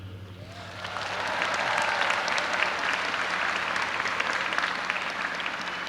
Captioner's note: audience applauding and cheering